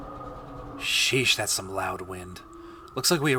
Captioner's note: wind continues